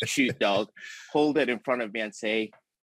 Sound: laughing

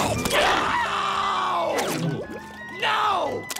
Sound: screaming

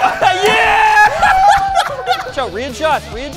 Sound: cheering

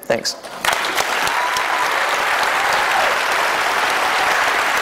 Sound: applause

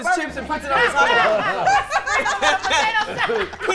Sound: laughing

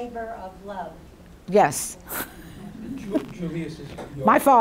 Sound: chuckles

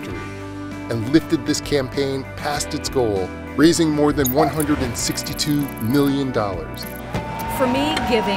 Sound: sfx: cheers & fireworks

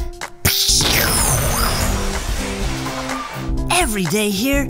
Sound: explosions

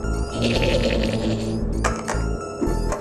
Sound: evil laugh

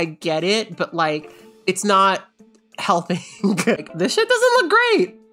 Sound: laughing

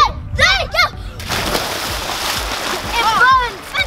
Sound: splash

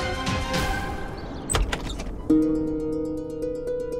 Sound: door opening

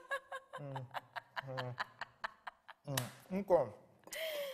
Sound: laughing; hands clap

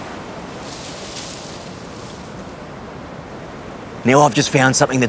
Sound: bushes rustling

